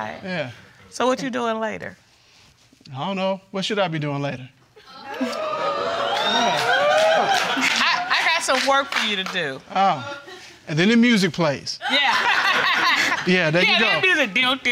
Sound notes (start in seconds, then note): 4.9 audience exclaiming; 11.9 laughs